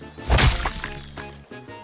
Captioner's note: splat!